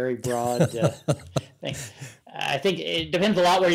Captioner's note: chuckling